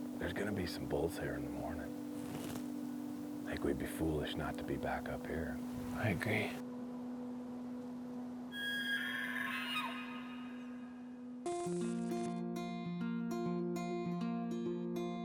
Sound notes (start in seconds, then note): 8.5 elk bugles; 11.4 acoustic guitar music